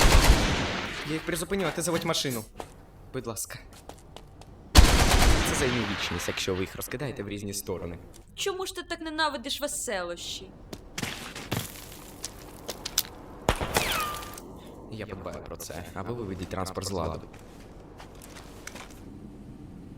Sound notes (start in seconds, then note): 4.7 gunfire; 13.5 tiny gunshot; 14.8 sighs